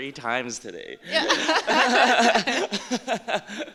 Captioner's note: laughter